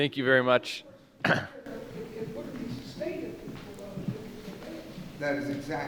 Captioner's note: woman speaking softly